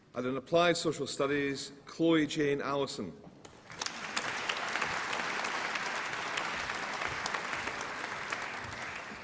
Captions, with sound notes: And in Applied Social Studies... Chloe Jane Allison. (APPLAUSE)